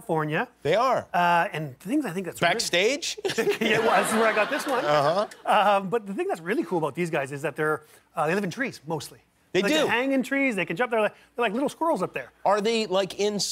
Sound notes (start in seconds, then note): 3.2 laughter